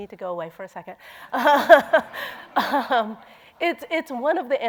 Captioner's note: laughter